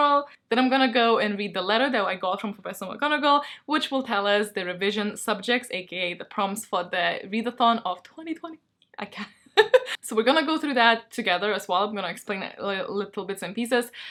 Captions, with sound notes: Then I'm gonna go and read the letter that I got from Professor McGonagall Which will tell us the revision subjects aka the prompts for the readathon of 2020 I can't (laughs) So we're gonna go through that together, as well. I'm gonna explain little bits and pieces